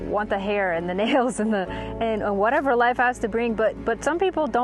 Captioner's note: chuckling